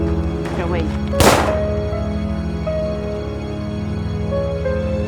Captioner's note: gun fires